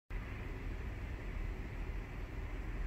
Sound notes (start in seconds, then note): 0.0 whirring noises